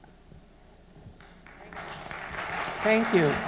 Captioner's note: applause